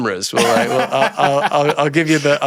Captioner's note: laughs